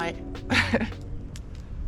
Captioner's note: chuckles